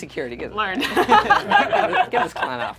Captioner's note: group laughs